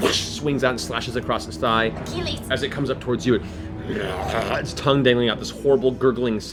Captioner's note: zombie groan